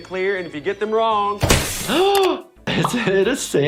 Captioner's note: shocked gasp; slap